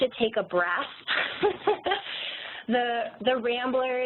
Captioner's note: laughs